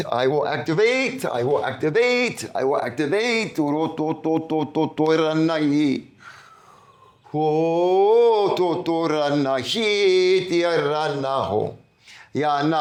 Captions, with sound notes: I will activate. I will activate. I will activate. [NON-ENGLISH SPEECH] Ready?